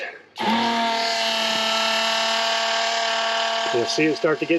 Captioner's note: macerator pump swirling sound